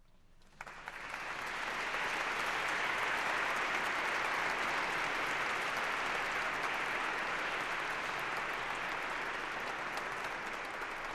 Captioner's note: applause